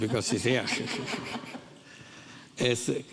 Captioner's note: audience laughing